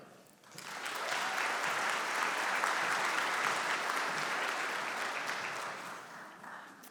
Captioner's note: applause